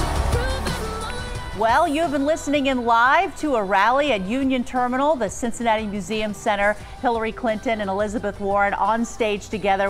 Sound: applause

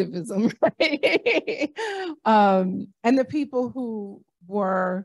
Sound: laughter

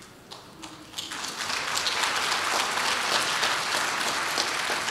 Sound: audience applauds

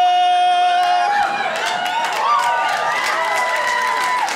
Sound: crowd cheers

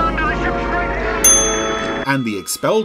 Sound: bell dings

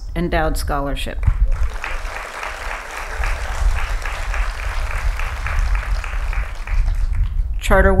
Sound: applause

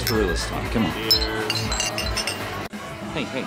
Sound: glasses clink

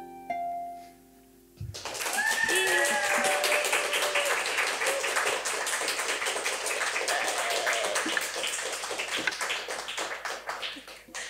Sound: audience clapping

